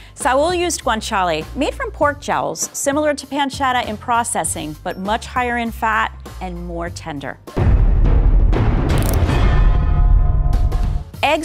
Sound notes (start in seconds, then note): 7.5 dramatic sounds; 10.6 upbeat music